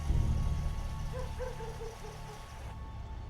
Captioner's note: dog barking